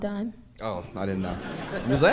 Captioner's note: audience laughing